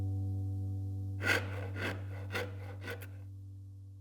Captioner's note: wood grating